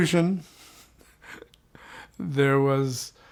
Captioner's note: chuckles